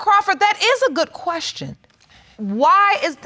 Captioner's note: none